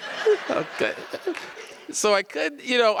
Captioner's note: audience laughs